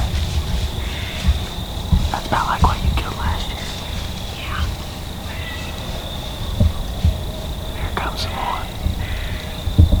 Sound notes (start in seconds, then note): 4.2 whispering